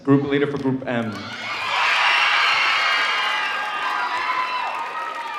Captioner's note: audience cheering